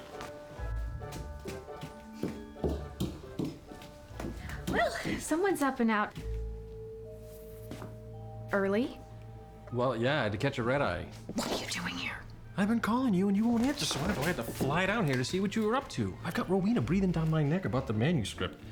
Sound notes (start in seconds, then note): 0.0 fast footsteps